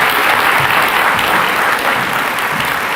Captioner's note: applause